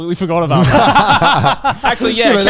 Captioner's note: everyone laughs